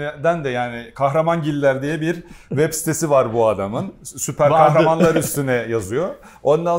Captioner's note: laughs